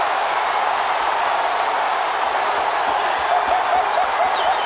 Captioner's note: crowd roars